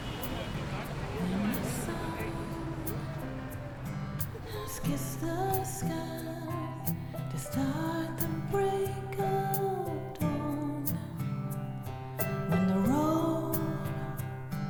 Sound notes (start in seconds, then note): 3.2 speaking In Foreign Language